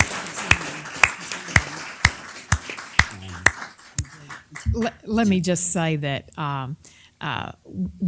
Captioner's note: applause